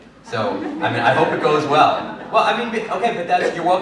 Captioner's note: laughter